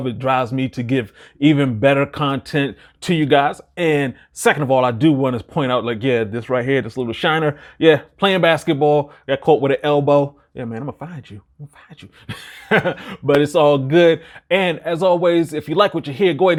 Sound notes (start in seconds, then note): 12.0 laughing